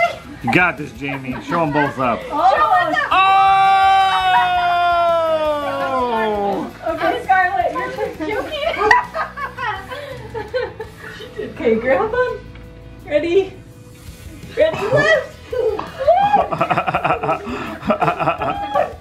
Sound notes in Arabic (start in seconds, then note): 8.8 تضحك الفتيات; 16.6 الكل يضحك